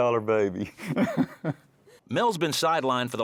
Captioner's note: laughs